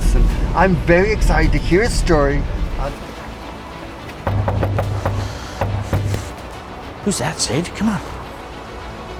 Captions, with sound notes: and I'm very excited to hear his story. (knocking on door) - Who's that, Sage? Come on!